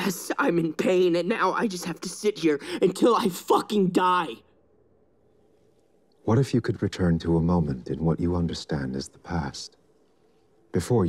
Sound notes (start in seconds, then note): none